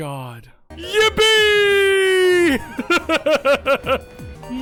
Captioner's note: laughs; upbeat whimsical music; vocalizes along